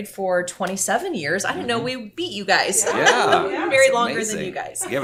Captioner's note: laughing